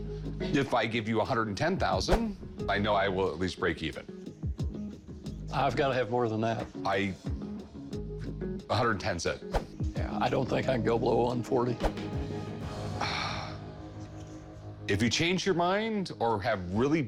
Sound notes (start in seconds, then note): 12.9 sighs